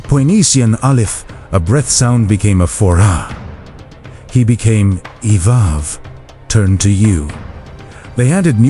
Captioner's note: a breath sound